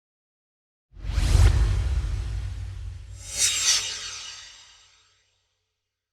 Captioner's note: swoosh